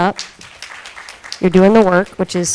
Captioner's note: audience applauding